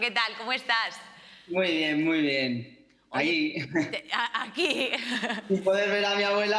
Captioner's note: laughs